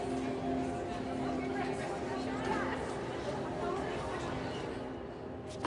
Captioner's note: indistinct chatter